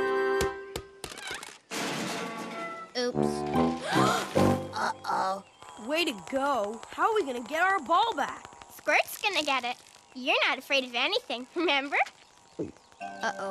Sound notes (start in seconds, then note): 1.6 crash; 3.8 gasp; 12.2 gulp